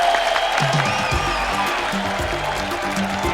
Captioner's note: cheering